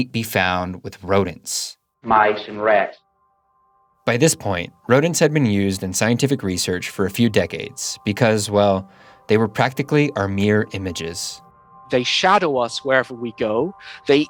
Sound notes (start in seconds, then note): 2.0 soundbite of archived recording